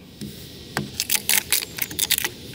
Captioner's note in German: Knacken